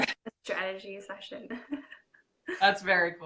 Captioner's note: laughing